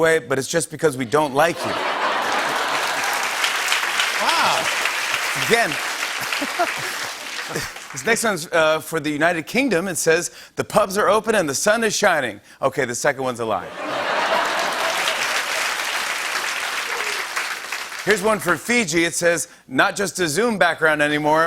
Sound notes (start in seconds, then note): 1.2 laughter and applause; 13.6 laughter and applause